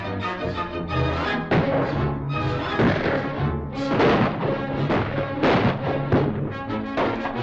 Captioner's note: gunshots